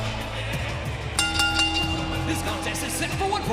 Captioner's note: bell ringing